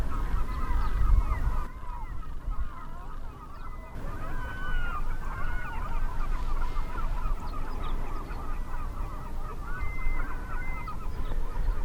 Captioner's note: call of waterfowl